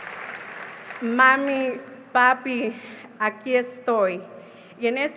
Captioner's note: speaking spanish